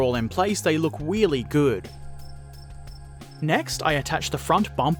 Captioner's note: cricket chirp